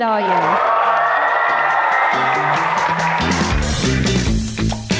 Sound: crowd cheering; upbeat rock music

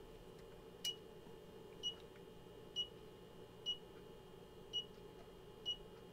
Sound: signal generator beeps

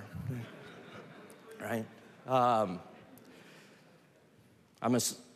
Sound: laughter

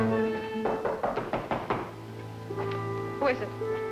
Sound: knocking

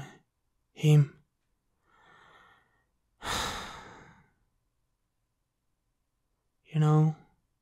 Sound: breathe sound

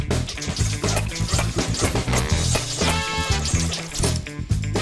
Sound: whirring

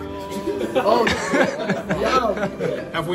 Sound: laughter

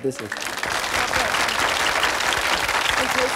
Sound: applause

